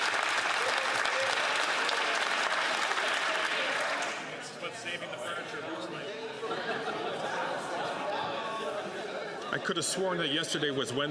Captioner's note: some Applause